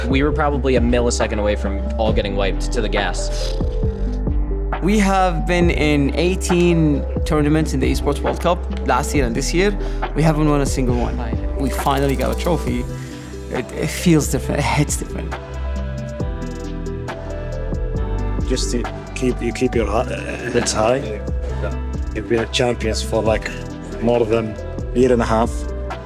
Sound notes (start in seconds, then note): 3.6 sputters